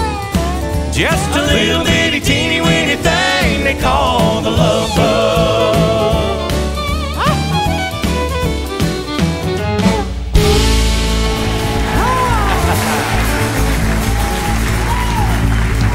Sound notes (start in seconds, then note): 11.7 laughs; 12.6 cheers and applause